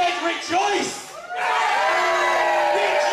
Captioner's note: crowd